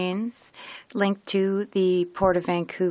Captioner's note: speaking French